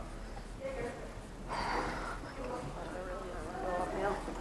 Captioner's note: breathing